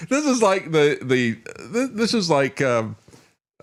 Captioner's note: none